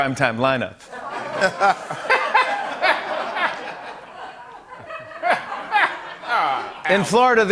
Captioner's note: laughter